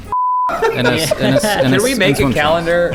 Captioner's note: stuttering